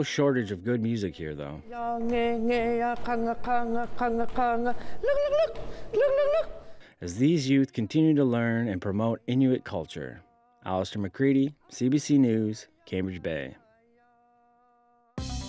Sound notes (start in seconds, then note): 9.3 chanting